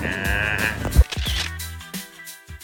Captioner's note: laughs